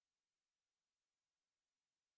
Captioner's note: none